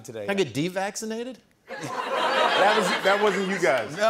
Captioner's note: laughter